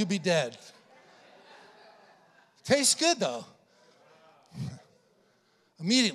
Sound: congregation laughing

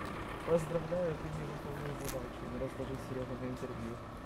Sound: chatter

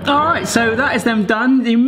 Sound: TARDIS sound effects

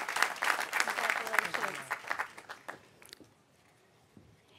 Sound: applause

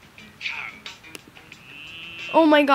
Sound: cow moos

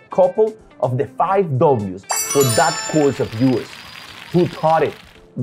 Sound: right Answer Sound

